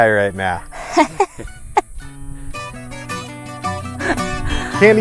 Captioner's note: laughs